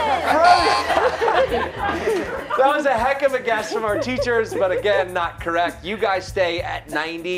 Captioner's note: laughter